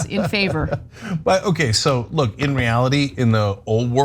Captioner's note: laugh